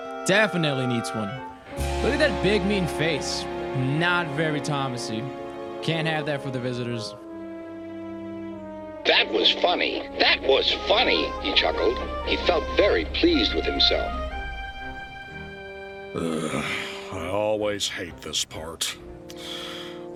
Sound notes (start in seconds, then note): 9.0 through a voice box; 16.1 Fifteen sighs